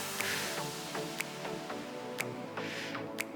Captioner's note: exhaling